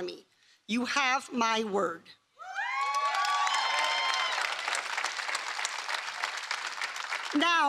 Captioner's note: applause